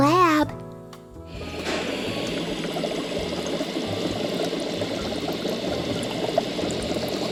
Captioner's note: liquid burbling; bunsen burner hissing